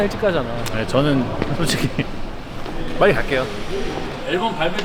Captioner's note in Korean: 허허허